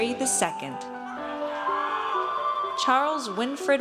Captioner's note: audience cheers